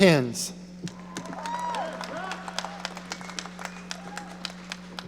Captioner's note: audience cheering